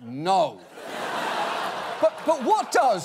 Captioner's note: audience laughing